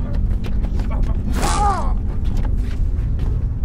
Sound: shock

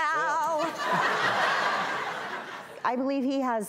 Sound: audience laughter

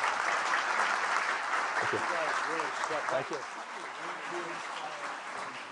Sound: applause

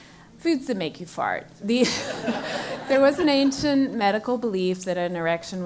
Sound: laugh

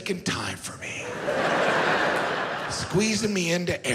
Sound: audience laughs

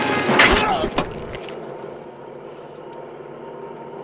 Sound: Otis grunting

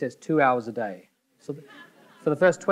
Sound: audience members laughing

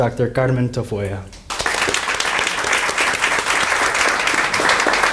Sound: audience applauding

